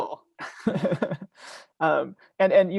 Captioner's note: laughing